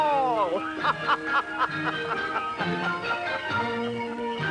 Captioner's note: jolly laughing